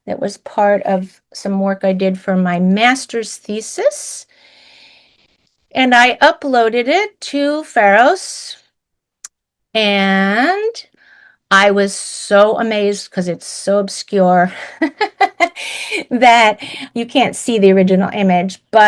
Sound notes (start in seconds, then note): 14.7 laughs